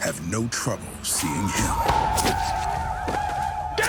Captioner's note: yelling